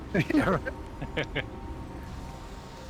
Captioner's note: laughs